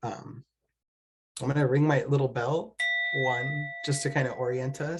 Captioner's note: ding